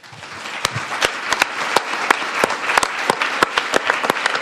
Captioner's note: audience applauding